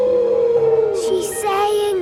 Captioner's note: whale calling